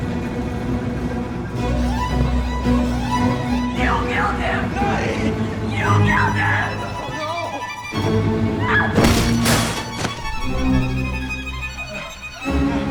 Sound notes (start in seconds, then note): 9.0 hammer blows; 9.3 Nadia screams